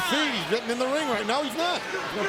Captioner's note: crowd chatter